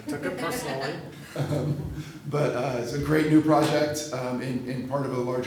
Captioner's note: laughs